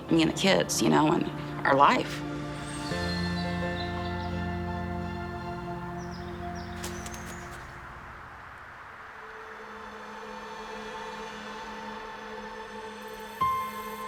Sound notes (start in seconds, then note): 4.9 birds chirping; 13.4 soft piano music